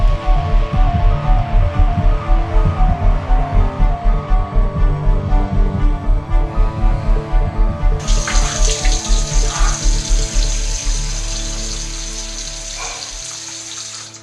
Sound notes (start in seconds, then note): 8.0 faucet runs